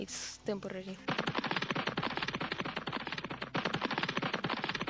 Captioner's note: goofy cartoon running sounds; MORE goofy cartoon running sounds